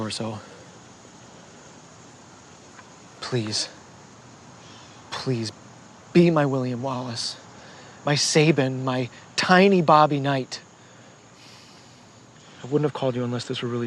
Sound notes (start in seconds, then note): 11.3 exhales softly